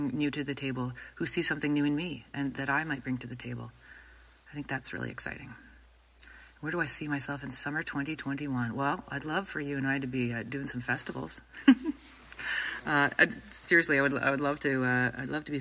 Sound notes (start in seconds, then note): 11.6 speaker laughs